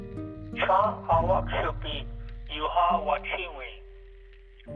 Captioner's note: speaking Lakota